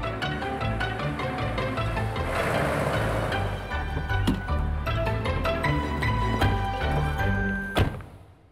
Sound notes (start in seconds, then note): 2.6 tires squeaking